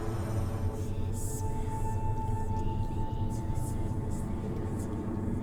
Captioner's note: dramatic music; eerie whispering